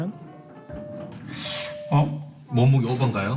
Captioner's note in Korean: 삐- 삐